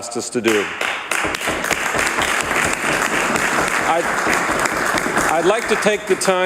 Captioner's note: some Applause